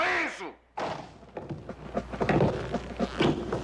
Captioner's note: heels Clicking